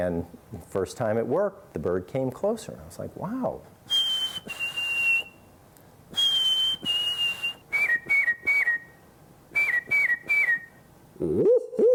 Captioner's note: whistles